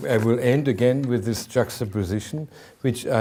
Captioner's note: none